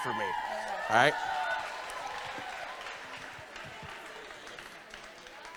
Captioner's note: congregation applauding